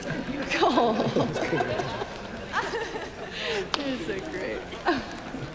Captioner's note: laughing; laughs; chuckles